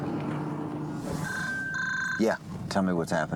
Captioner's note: phone ringing